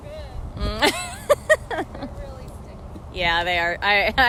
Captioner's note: laughter